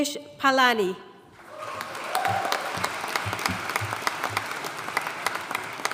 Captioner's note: audience cheering and applauding